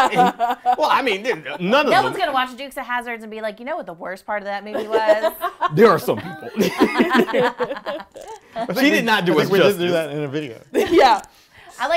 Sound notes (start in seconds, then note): 0.0 laughing; 7.7 group laughs